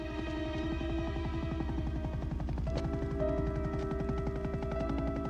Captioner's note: helicopter blades whirring